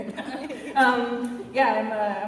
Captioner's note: laughter